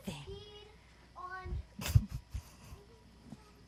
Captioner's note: talking off camera; chuckles